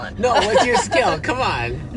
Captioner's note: laughing